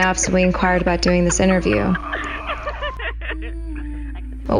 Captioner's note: Emily laughing